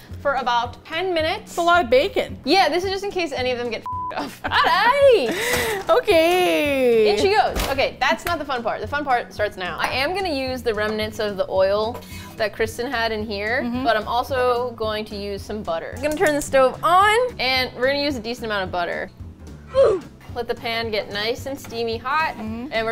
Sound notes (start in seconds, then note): 4.2 laughs